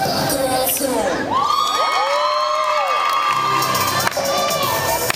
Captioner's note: applause and cheering